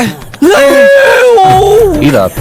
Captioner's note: screams